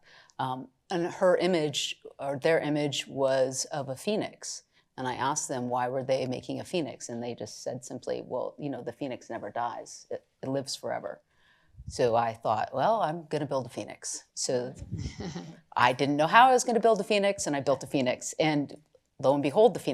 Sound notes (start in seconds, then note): 15.0 chuckles